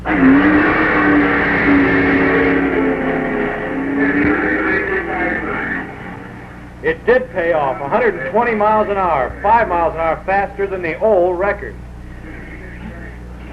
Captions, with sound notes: (engine roaring) (announcer echoing) It did pay off, 120 miles an hour, five miles an hour faster than the old record.